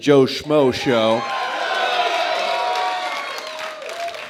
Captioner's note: cheering